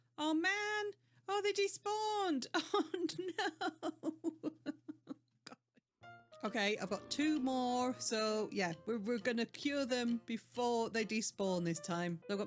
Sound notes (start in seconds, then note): 2.6 laugh crying